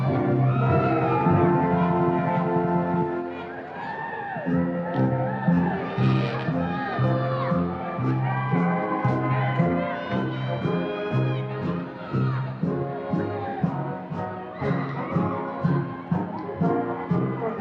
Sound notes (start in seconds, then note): 0.0 band plays; 1.3 audience applause and cheers continues